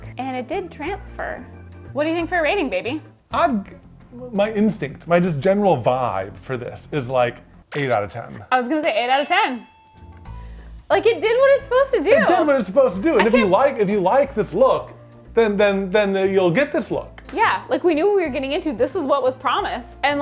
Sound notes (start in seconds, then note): 7.9 digital pulsing; 9.2 bell dinging; 9.8 upbeat music continues